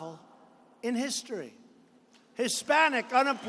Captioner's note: applause